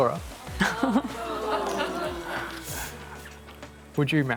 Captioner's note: audience members exclaim